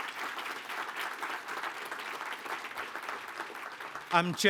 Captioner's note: applause